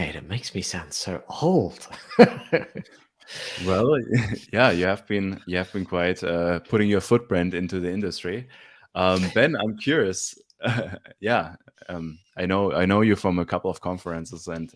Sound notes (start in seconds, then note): 3.4 laughing